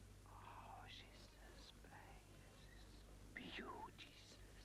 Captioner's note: Rothrar whispering